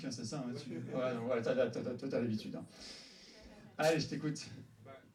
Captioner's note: laughs